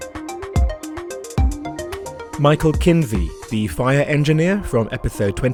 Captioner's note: voiceover